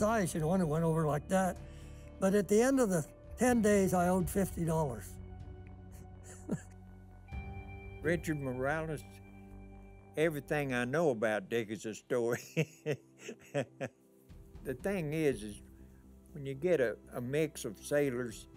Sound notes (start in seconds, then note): 6.2 laughing; 12.3 laughing